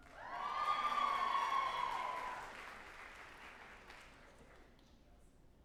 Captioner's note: group applauding and cheering